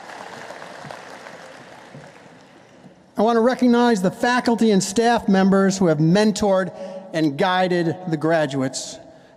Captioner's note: applause